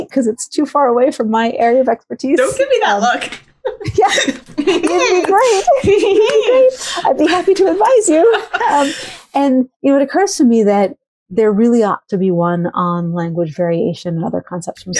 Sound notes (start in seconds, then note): 3.6 laughs